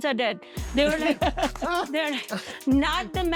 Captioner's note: laughing